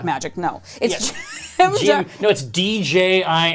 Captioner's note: laughing